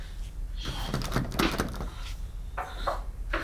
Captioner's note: pulling on door